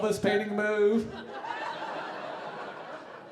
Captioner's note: audience laughing